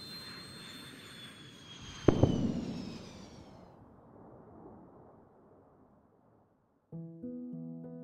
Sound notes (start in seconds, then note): 0.0 jet Noise; 2.0 sonic Boom